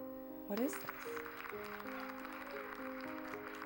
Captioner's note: crowd applauds